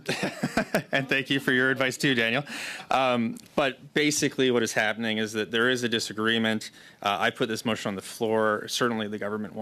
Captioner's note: laughter